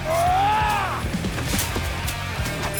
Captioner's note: Leopold Roars